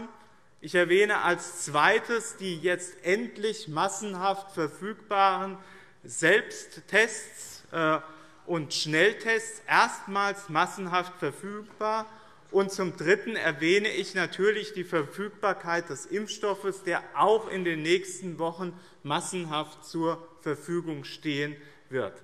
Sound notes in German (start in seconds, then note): none